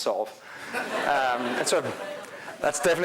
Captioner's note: crowd laughing